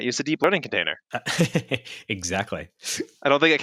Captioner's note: chuckles